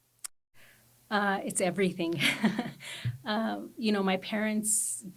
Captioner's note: chuckles